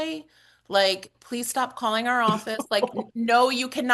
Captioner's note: laughs